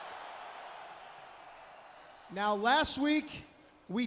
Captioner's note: crowd cheering